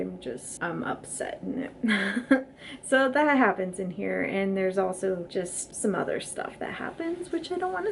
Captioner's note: awkward laugh